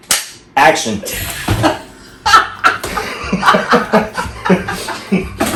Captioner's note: laugh